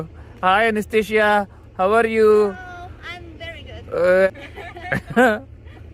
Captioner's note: laughs